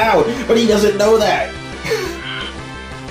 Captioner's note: scoff